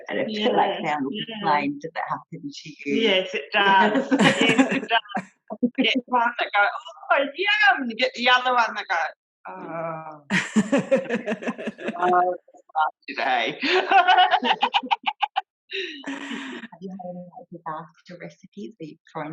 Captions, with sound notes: Yes it does. One goes oh yum and you get the other one that goes OHHH (laughter)